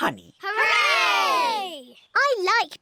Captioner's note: none